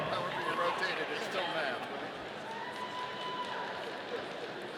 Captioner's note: audience cheering